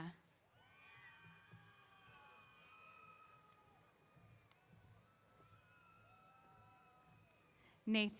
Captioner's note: cheers